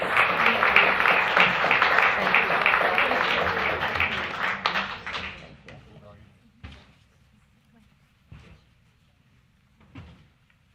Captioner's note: applause